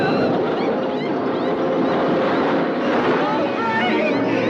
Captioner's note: Eleanor sobbing; animatronic laughing